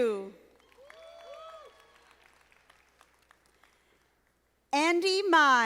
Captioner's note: audience applauding